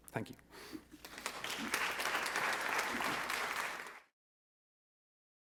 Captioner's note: audience clapping